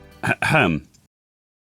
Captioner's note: ahem